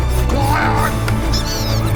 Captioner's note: whinging